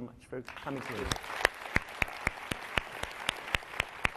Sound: applause

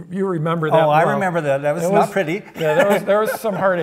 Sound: laughs

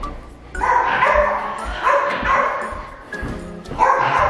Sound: dog barking

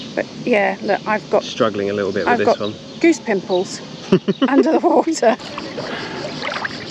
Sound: laughter

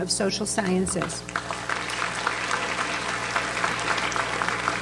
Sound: audience applauds

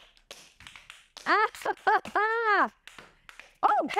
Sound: laughs

